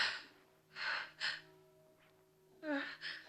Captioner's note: whimpering